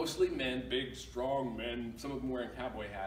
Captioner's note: deep voice